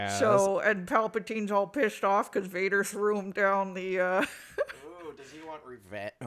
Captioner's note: laughs